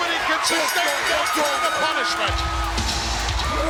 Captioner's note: bell dinging; rock music